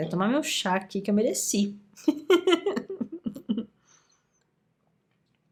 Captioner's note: laughs